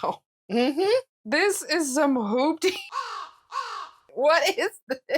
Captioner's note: caw